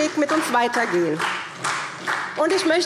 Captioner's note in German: Beifall SPD